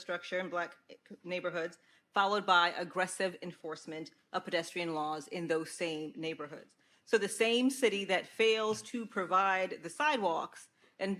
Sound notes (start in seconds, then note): none